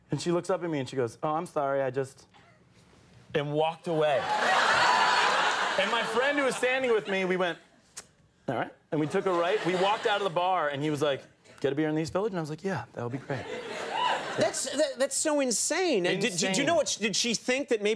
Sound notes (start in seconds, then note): 4.2 audience laughing; 13.8 audience cheering